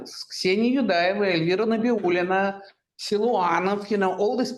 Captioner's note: speaking in Russian